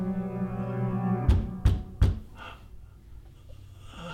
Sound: knocking

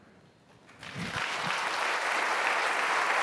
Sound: applause

